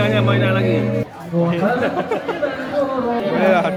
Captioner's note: laugh